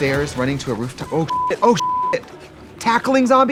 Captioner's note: beeping